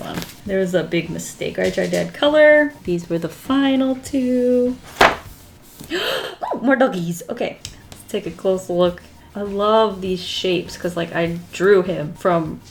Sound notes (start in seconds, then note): 4.8 page flips; 5.8 gasps